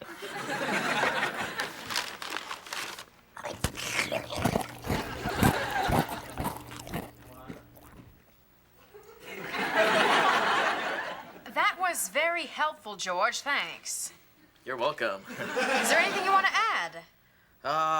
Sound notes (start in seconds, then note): 0.0 audience laughing; 3.3 chewing